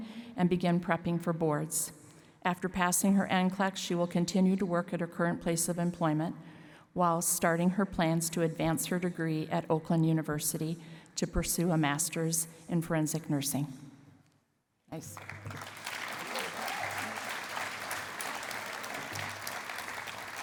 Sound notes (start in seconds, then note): 15.1 cheering and applause